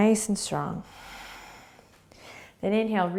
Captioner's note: exhaling